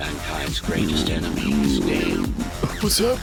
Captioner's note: dunce groan